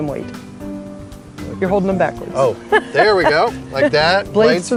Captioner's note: laughs